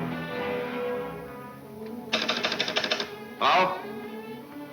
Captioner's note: phone clicking